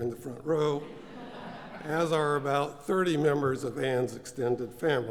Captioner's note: laugh